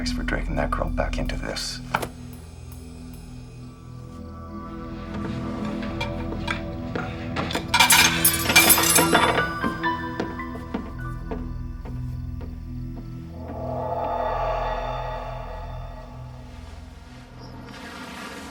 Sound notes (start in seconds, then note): 2.1 tense music; 8.3 dishes clattering